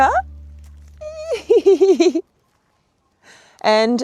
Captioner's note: squeals and laughs excitedly